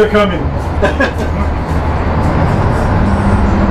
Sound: laughs

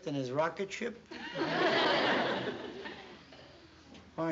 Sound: laughter

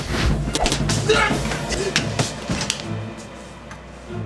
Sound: screams

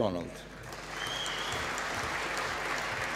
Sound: applause

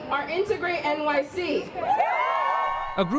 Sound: cheering and applause

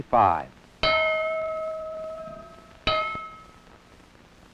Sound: bell ringing

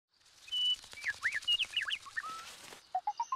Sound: bird chirping

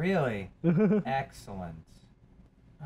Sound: laughs

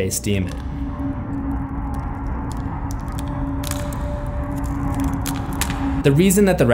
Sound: crackling sound

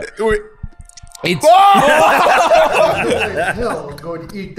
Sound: screaming

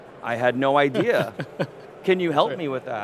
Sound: laughing

